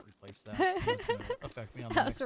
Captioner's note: laughing